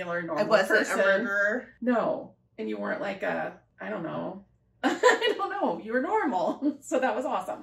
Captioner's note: laughter